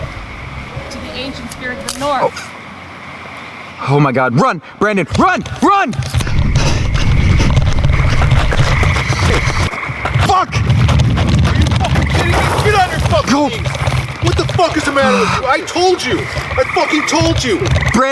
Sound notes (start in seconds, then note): 2.5 branch cracking; 6.1 heavy breathing